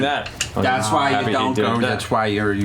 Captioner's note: New Jersey accent